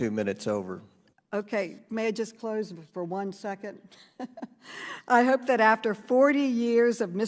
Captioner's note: chuckles